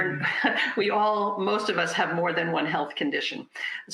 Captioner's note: laughs